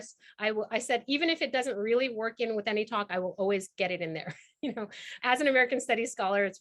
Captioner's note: chuckles